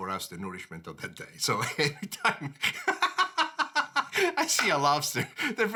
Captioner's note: laughing